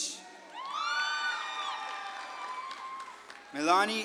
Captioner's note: audience claps and cheers